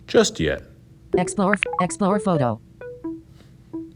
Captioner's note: click, jingle